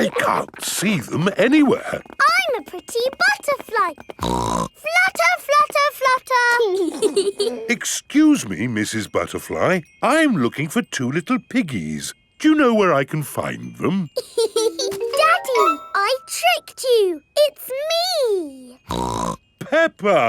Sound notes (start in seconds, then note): 4.6 snorts; 6.8 both giggling; 14.2 laughs; 18.8 snorts